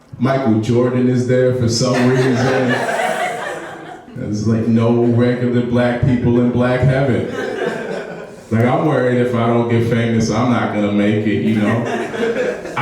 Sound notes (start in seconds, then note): 1.9 laughing; 7.1 audience laughs